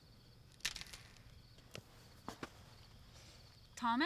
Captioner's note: twigs snapping